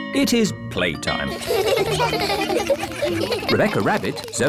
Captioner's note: all laugh